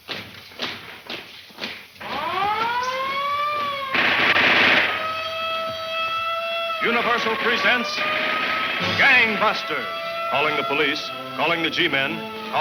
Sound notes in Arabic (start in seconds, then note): 2.5 صراخ الإنذار; 3.9 البنادق تطلق النار بشكل عدواني